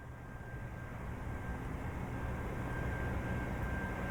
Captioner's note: airplane flyover